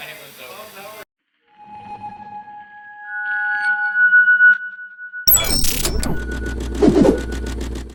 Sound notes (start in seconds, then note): 2.0 screeching